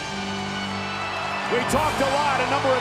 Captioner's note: audience cheering